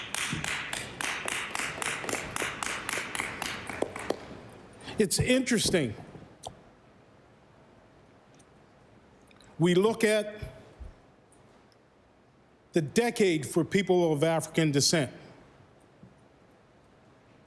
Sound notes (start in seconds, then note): 3.7 applause